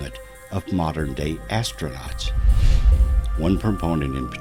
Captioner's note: air whooshing